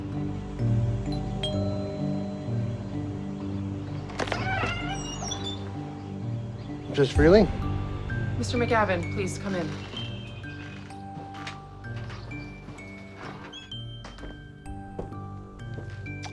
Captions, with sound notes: (doorbell rings) Mrs. Freeling. - Mr. McGavin. Please come in.